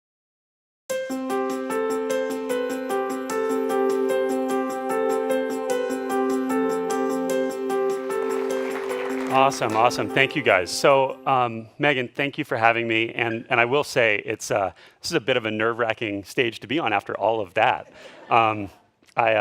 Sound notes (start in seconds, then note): 0.7 light music; 7.8 audience applause; 17.8 audience laughs